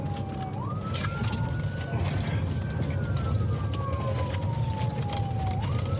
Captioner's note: siren wailing